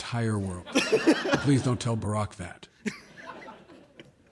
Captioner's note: laughter